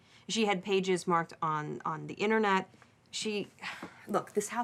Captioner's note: sighs